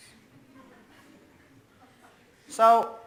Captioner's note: audience laughs